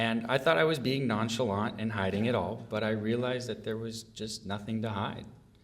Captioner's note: none